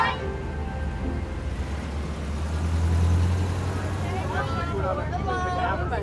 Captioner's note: bus engine roaring; students chattering